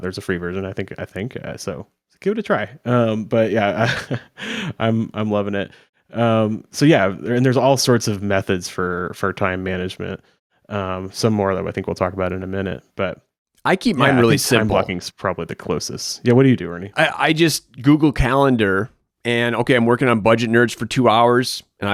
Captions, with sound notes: There's a free version, I think, so give it a try. But yeah, (chuckles) I'm loving it. So yeah. And there's all sorts of methods for time management. Some more that I think we'll talk about in a minute. But yeah- - I keep mine really simple. - I think time blocking's probably the closest. Yeah, what do you do, Ernie? - I just Google Calendar, and okay, I'm working on "Budget Nerds" for two hours,